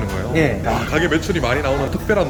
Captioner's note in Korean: 감탄